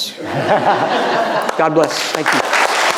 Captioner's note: audience laughing